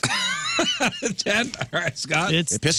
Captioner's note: laughing